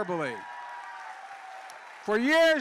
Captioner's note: applause